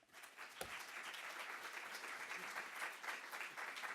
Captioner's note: applause